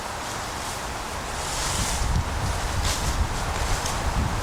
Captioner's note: wind Blowing